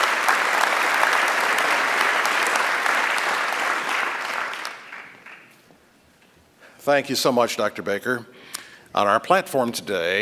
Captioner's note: applause